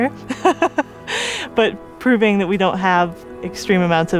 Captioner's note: laughs